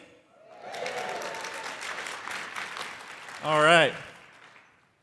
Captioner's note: crowd applauding